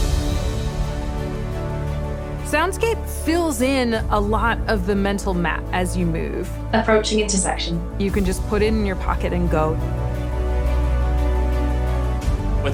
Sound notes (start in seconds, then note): 5.2 synthesized voice